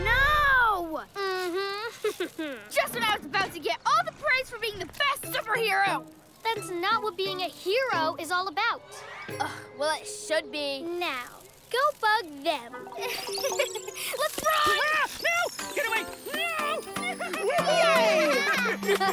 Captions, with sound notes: - No! - Mhmm. (Snickers) I was about to get praised for being the best super hero! That's not what being a hero is all about! Ugh, well it should be. Now, go bug them! - (Nervous laugh) Let's run! - Ah! No, get away! No! - Woohoo! - Yay!